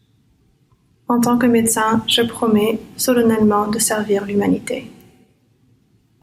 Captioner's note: speaks in foreign language